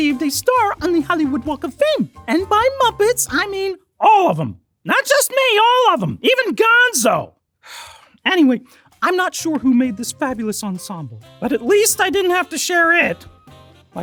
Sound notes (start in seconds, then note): 0.0 mellow music; 7.6 exhales